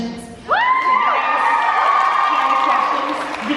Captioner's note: cheering and applause